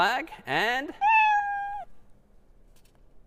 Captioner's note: meow